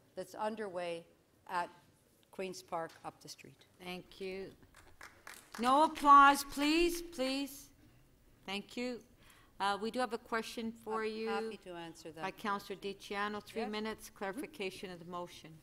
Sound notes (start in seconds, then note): 9.0 applause